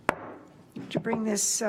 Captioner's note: gavel bangs